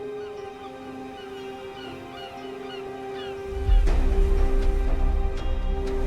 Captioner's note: seagulls squawking; waves crashing